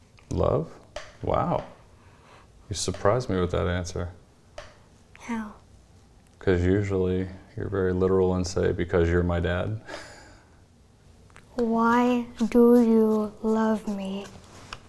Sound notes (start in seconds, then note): 9.9 chuckling